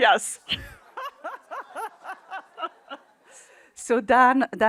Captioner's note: laughter